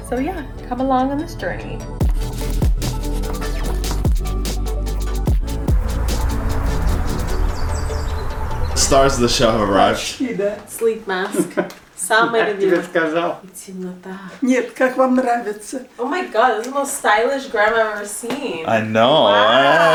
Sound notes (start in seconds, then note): 2.2 upbeat music; 5.4 cars passing; 6.4 birds chirping; 13.7 all speaking Russian